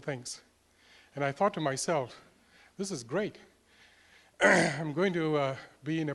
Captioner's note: cough